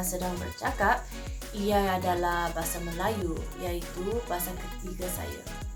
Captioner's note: Bahasa Melayu